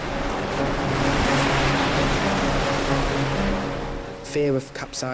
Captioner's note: waves crash